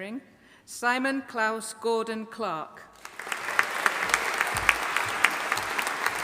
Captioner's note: audience applauding